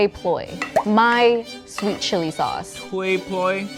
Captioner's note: audio plopping